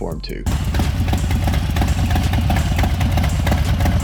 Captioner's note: engine hums